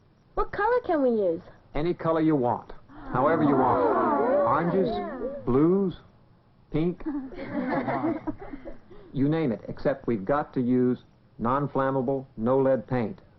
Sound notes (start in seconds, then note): 2.9 titters of excitement; 7.0 giggling